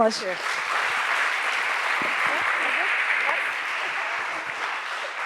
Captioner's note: audience applauds